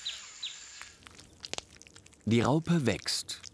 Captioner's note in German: Knacken